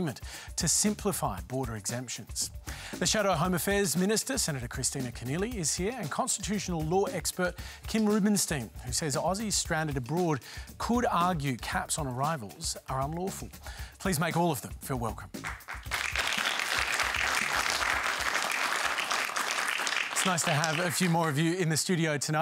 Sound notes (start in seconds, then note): 15.4 applause